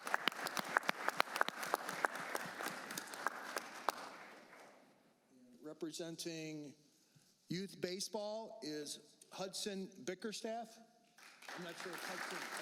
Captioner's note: applause